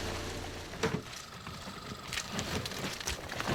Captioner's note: squirrel calling out